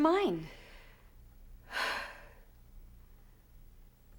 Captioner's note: sighs